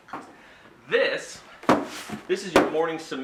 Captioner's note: thud